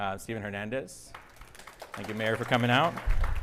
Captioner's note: audience applauding